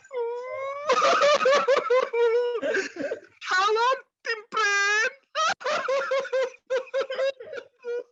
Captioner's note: wails